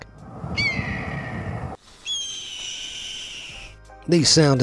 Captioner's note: hawk screeches